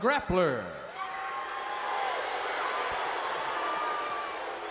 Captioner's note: crowd boos